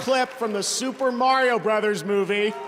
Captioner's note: cheers and applause